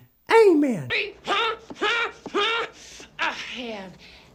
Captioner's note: grunting